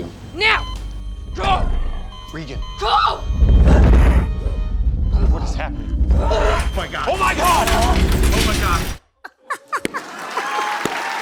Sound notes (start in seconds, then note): 3.4 rumbling